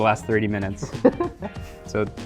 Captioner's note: chuckles